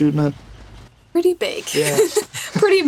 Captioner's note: laughs